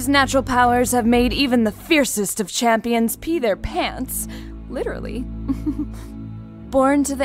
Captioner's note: soft chuckle